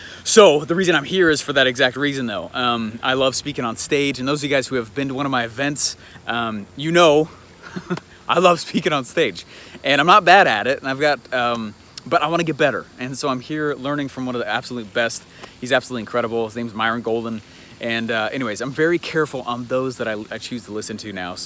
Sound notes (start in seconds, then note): 7.6 laughs